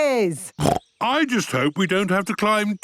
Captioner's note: snorts